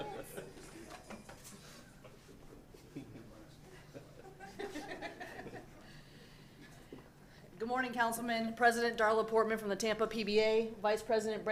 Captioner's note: laughter